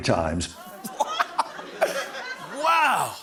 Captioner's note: laughing